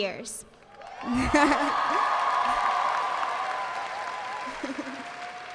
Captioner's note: audience cheering and applauding